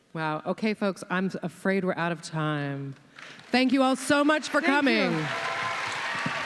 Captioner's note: audience cheers and claps